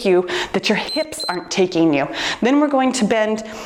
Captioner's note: timer beeps